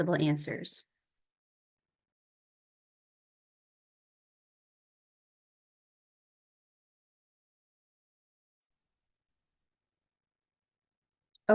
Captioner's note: silence